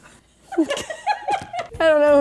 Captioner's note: laughing